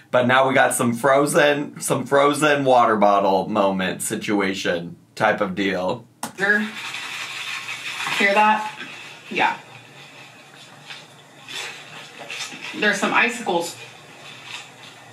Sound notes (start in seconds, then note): 6.4 ice rattling